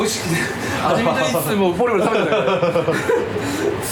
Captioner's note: laughs